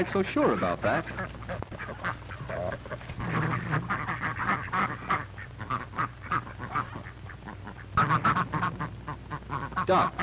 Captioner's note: clucking and quacking